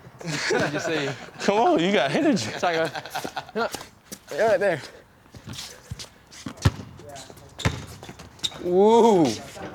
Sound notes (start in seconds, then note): 0.2 both laughing; 6.6 ball thunking